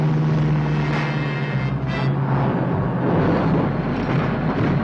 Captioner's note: truck whizzes